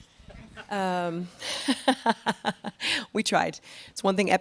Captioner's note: laughing